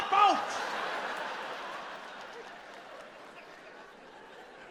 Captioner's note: audience laughs